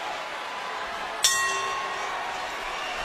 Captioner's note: bell rings